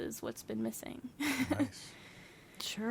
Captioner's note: laughs